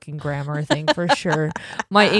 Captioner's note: laughing